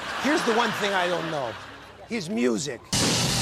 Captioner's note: laughter